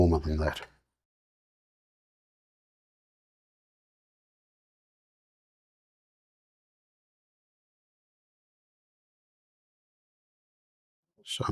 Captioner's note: silence